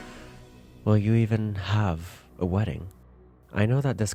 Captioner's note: breath